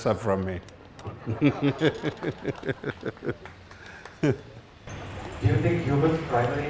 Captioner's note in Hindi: हँसी